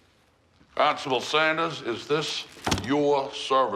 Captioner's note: none